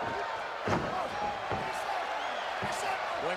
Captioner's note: crowd chattering; Hart thuds